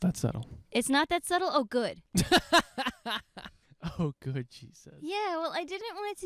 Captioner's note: laughing